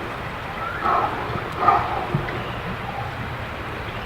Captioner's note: animal barking